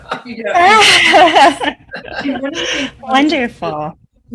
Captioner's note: laughs